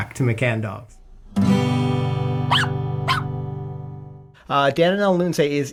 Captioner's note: guitar strum; dog barking